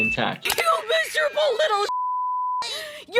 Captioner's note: beeping